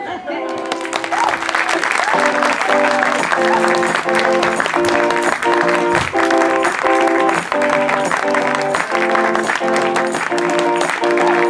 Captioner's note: applause